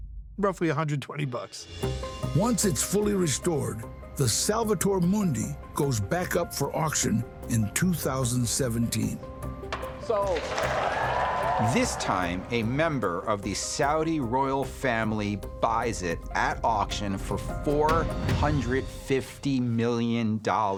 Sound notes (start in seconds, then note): 9.6 gavel bangs; 10.1 audience cheering